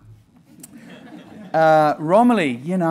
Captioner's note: laughing